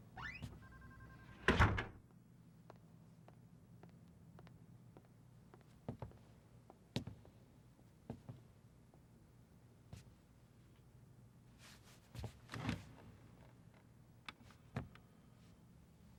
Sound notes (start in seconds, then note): 1.4 door closing